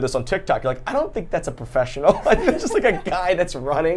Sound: laughs

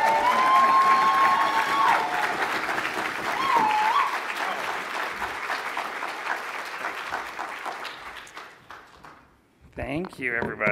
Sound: applause

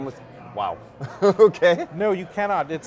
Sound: laughs

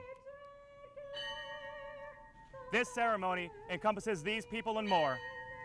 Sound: bell toll, bell toll

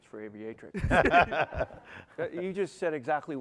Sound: laughter

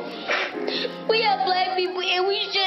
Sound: sobs

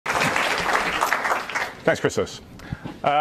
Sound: applause

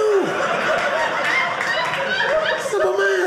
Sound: audience laughing

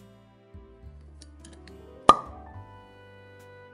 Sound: bottle opening

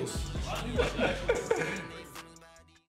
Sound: group laughing

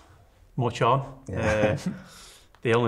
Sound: both chuckle

